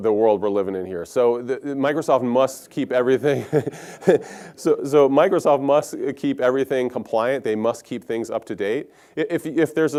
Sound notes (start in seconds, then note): 3.3 laugh